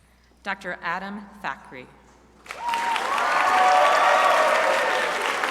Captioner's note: crowd applauding